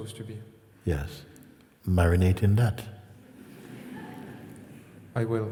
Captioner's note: laughter